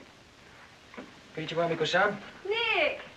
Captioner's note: speaking in Japanese